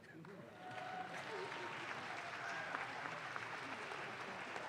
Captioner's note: audience claps